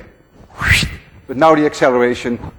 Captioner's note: makes whooshing sound